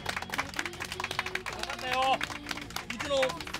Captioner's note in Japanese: 拍手